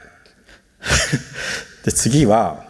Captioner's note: chuckles